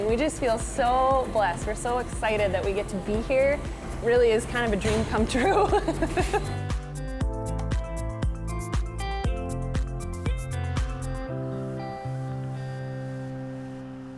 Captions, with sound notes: We just feel so blessed. We're so excited that we get to be here, really is kind of a dream come true. (laughs) (bright upbeat music)